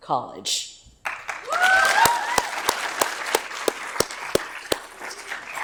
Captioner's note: audience applauds